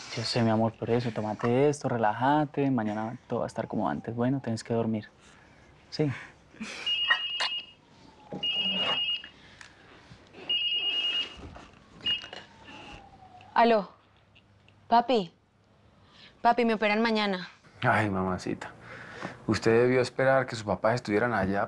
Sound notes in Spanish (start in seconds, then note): 6.9 Suena el celular